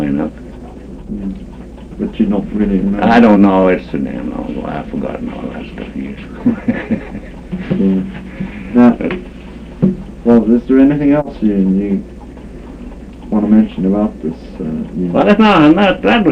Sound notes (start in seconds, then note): 5.9 laughs